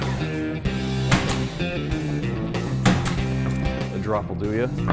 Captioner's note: rock music; stapling